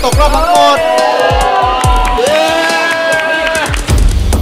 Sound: cheering; applauding

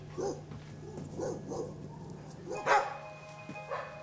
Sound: dogs barking

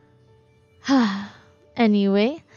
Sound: sighs

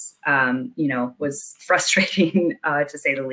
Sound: chuckles

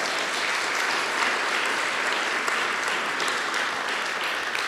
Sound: applause

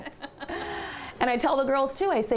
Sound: laughter

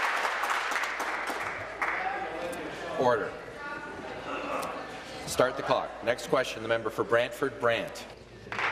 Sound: applause

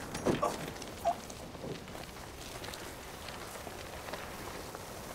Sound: vehicle rolling

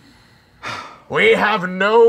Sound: sighing

